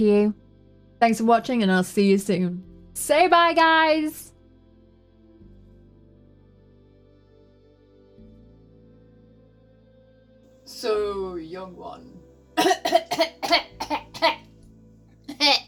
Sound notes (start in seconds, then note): 12.6 dies coughing